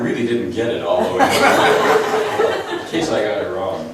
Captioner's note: laughs